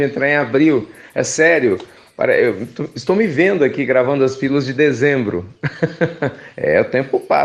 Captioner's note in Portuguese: Risos